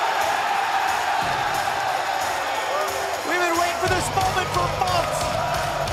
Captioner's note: crowd cheering